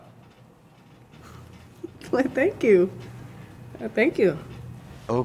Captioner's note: giggles